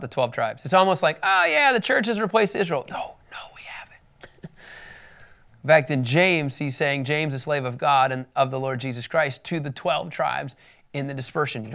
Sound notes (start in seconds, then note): 2.9 whispering